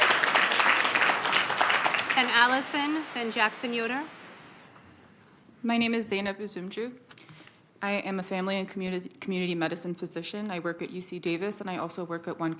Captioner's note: applause